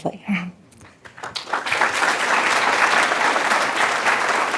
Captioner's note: applause